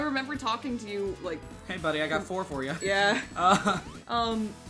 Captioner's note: both chuckling